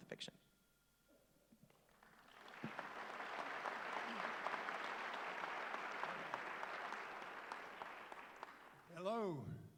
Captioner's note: applause